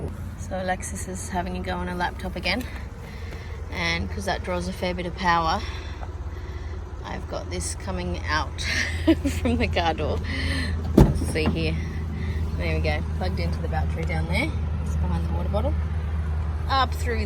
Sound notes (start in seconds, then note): 8.6 laughing; 9.8 car door clunks